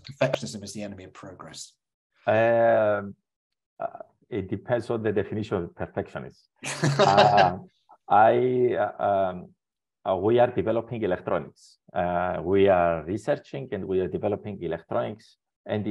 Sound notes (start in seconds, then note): 6.6 laughs